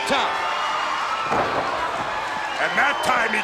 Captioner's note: Ric thudding on ring